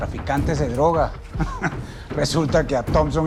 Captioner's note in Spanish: Risas